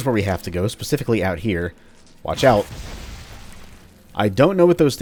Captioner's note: fwoosh